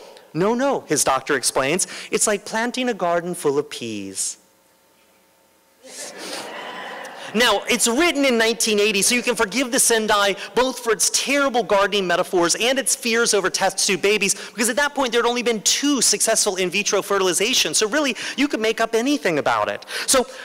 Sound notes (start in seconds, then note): 4.5 laughter